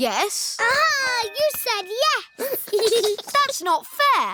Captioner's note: giggles